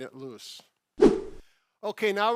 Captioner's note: air whooshing